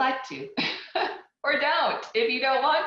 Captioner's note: laughs